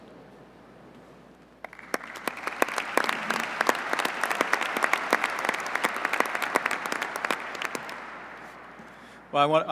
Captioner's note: applause